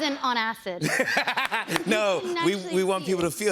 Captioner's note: laughter